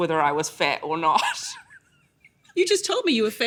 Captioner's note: laughs